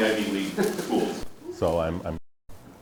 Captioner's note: students laugh